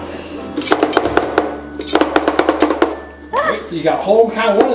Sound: spatulas chopping

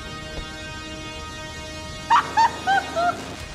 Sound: laughing

